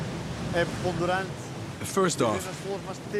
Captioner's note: speaking in foreign language